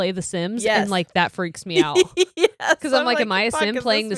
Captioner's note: giggles